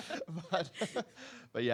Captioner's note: laughing